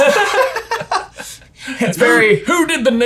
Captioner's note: both laugh